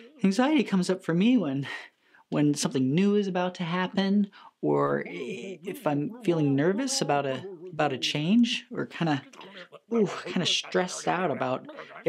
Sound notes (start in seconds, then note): 0.0 critters mumbling; 0.0 sighs; 6.2 critter mumbling in low voice; 10.9 critter mumbling in gruff voice